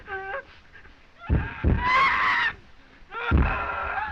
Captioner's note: screaming